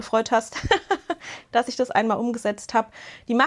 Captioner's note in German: Gelächter